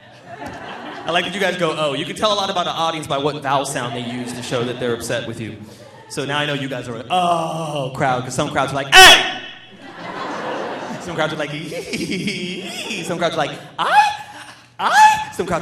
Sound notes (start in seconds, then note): 0.0 audience laughing; 7.6 grunts; 8.9 shouts; 9.7 audience laughing; 13.8 exclaims